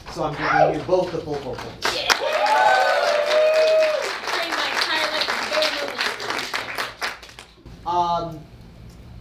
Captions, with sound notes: So I'm giving you both the full four points. (audience cheering) - Um.